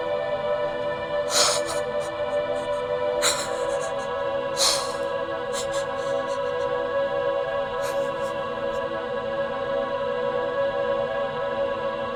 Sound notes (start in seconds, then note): 0.1 tense music; 3.1 Taffy sobbing; 3.1 tense music